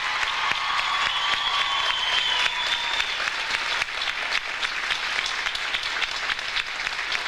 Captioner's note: audience cheers; audience applauds